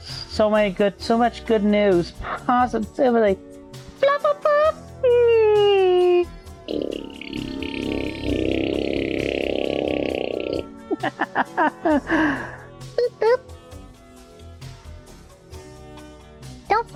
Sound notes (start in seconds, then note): 6.6 blows raspberry; 10.8 laughter